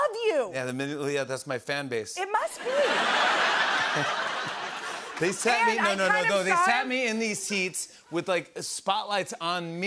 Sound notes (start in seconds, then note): 2.6 laughter